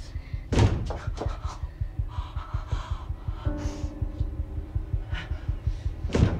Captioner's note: Jessica whimpers; banging